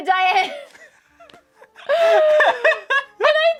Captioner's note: guilty laughter